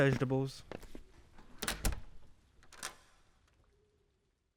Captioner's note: door closes, key turns